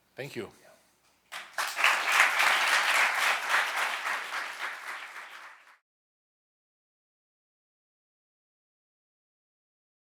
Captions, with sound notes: Thank you. - Yeah. (audience applauding)